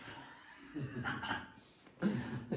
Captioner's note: laughter